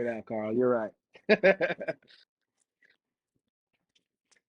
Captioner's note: laughs